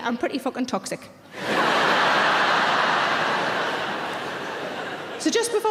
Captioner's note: audience laughing